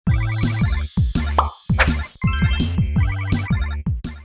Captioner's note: logo beeping